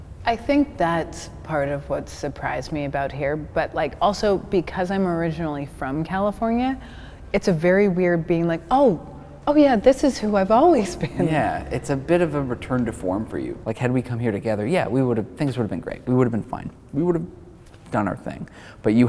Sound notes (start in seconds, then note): 10.9 chuckles